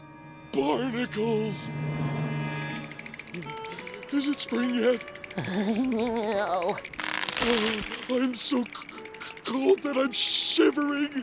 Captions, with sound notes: Barnacles. [shivering] Is it spring yet? [shivering] No. I'm so c-c-cold that I'm shivering.